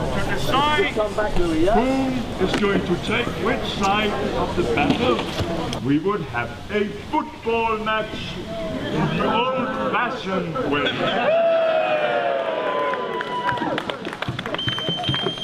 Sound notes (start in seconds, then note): 10.5 people cheering